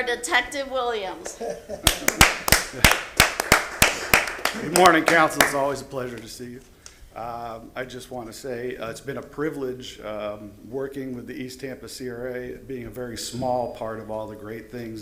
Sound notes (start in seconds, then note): 6.4 applause